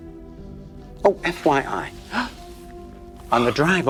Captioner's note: gasps